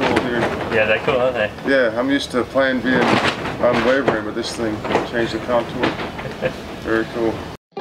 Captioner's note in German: Windgeräusch